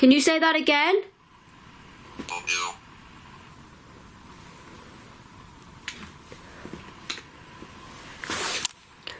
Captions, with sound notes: Can you say that again? (puck speaking)